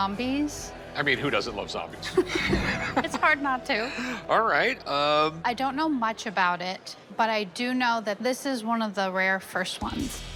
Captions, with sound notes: - I mean, who doesn't love zombies? [laughter] - It's hard not to. - All right. - I don't know much about it, but I do know that this is one of the rare first ones.